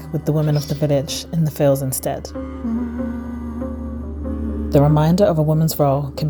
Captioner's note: none